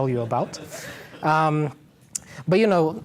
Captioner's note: laughter